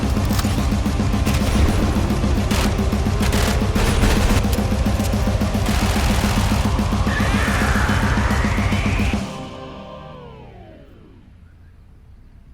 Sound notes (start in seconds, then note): 0.5 metal intensifies; 7.0 an eldritch roar; 10.7 music fades abruptly